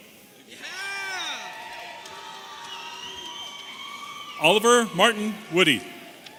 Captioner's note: audience cheering